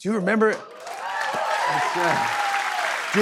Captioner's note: cheers and applause